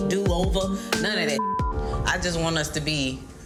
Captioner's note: beep